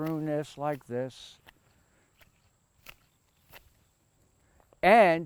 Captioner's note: shear snipping